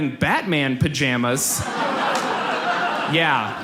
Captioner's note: audience laughs